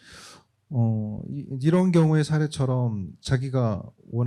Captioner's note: speaking korean